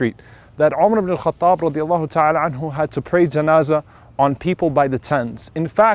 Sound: funeral prayer

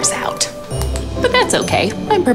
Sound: flashlight clicks

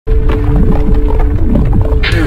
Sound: zero point noise

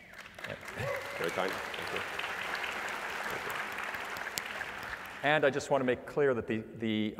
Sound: applause

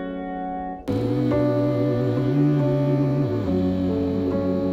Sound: people humming

